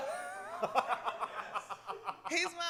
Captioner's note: laughter